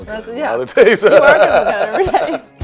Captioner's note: laughing